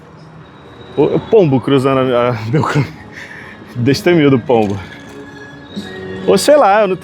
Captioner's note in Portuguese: risadas